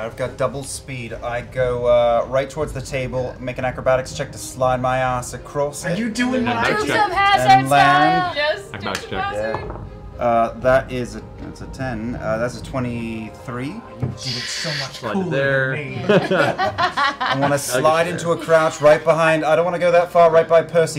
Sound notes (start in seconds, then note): 14.2 shhht; 15.9 laughter